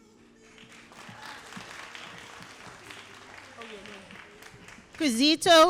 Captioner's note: all applauding